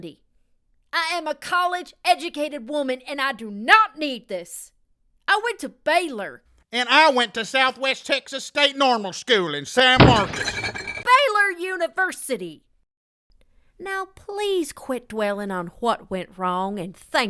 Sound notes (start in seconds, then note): none